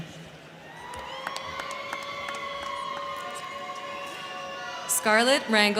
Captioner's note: crowd cheering; crowd clapping